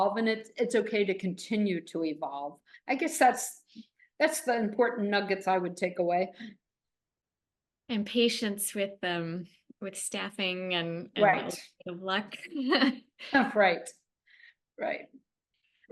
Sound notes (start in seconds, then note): 12.7 chuckles